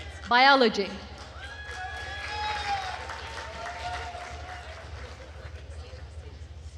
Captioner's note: attendees cheering and applauding